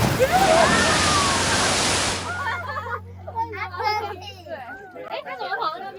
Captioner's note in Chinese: 大家驚叫聲